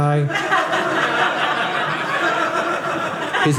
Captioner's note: audience laughing